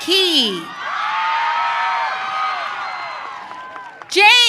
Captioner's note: audience cheering